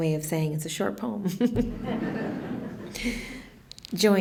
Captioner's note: laughter